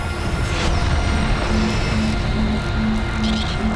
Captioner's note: laser beams